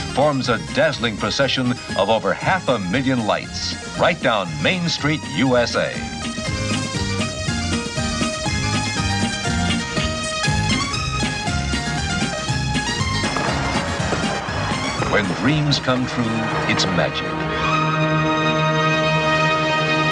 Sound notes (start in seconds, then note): 7.6 electronic music; 7.6 fireworks popping